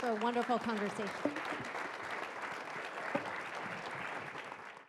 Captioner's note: all applauding